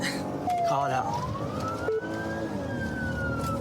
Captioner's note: siren blares